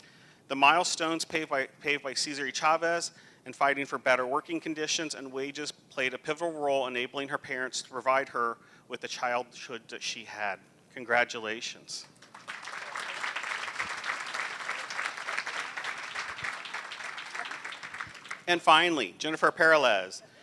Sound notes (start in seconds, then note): 12.0 applause